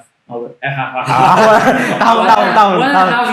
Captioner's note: laughter